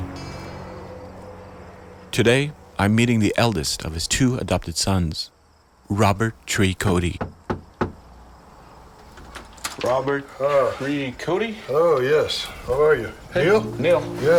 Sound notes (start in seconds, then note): 6.8 knocking on door